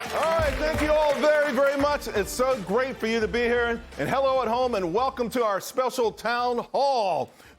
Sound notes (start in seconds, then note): 0.0 applause